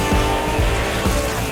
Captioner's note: engine racing